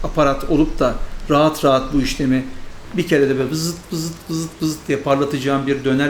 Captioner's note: whir, whir, whir